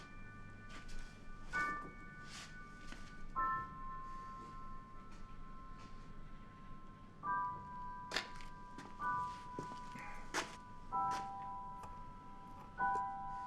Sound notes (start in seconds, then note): 0.1 slow melancholic music; 8.1 footsteps tapping